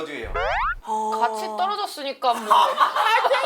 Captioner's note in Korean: 긁적